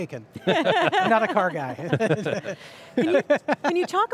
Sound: laughs

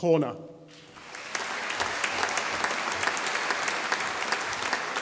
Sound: audience applauding

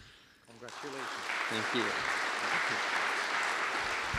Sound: applause

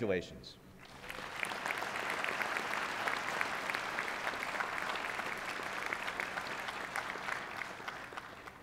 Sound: applause

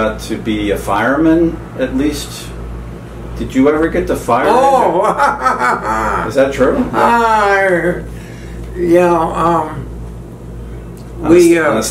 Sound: laughs

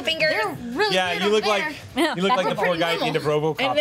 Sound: overlapping chatter

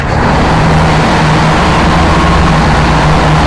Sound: boat roars

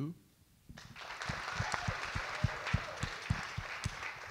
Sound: audience clap

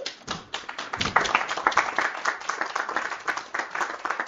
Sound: applause

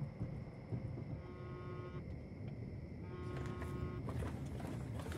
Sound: phone vibrates

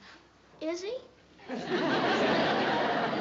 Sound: laughter

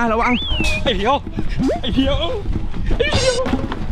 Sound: pat

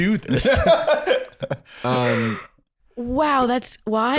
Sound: laughing

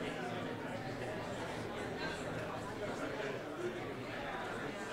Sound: people chattering

